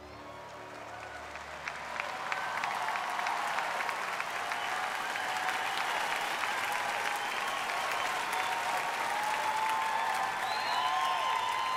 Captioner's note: applause